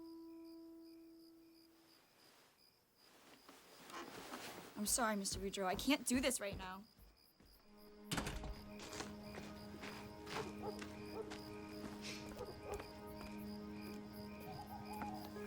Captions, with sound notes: - I'm sorry, Mr. Beudreaux, I can't do this right now. (door bangs shut) (gentle somber music) (dog barks distantly)